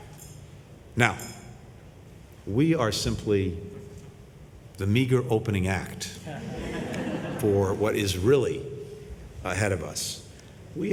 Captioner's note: laughter